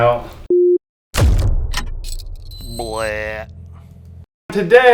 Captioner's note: splating noise